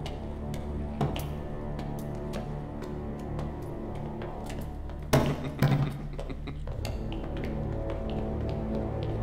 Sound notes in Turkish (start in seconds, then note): 0.0 Müzik - Gerilim; 5.2 Gülme sesi